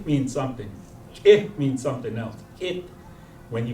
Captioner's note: non-english